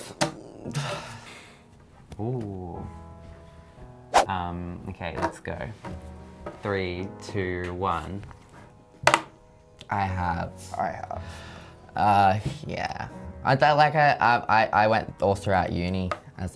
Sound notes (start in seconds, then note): 0.1 placid music; 3.0 somber music; 4.1 letters whooshing; 8.4 somber music